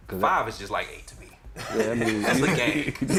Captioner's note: laughter